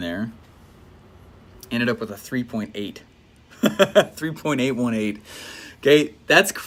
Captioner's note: laughs